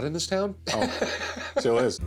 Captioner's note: laughing